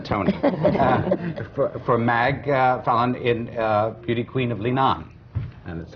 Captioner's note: laughter